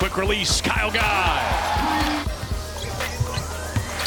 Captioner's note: cheering